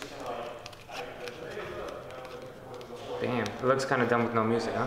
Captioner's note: people talking